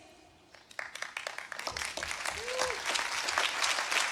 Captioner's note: applause